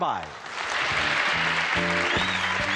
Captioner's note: audience cheers; theme music plays